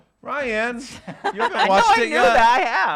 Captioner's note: laughing